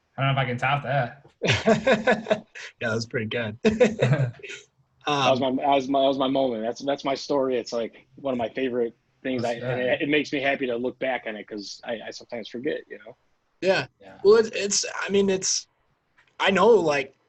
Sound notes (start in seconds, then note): 1.4 laughs